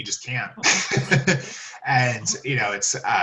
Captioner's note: laughs